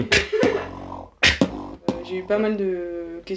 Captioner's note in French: beatbox